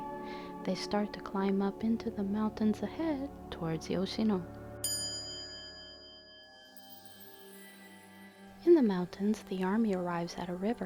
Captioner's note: quiet chime